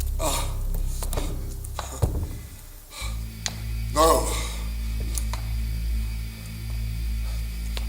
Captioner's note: Van Helsing fighting for breath